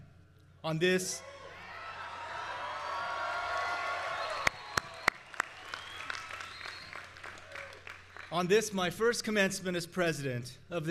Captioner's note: cheers